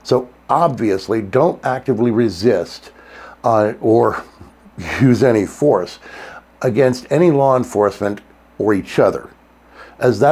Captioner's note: gasp!